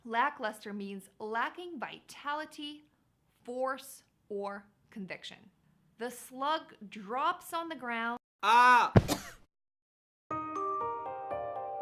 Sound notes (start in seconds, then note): 8.4 ahh! Cough; 10.3 piano music